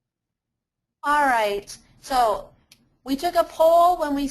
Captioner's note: voiceover